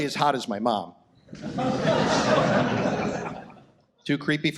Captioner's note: audience laughs